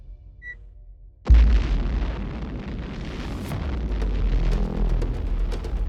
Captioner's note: explosion booming